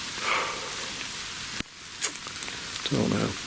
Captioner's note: sighs